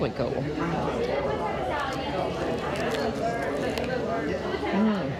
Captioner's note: patrons chattering; po' boy crunching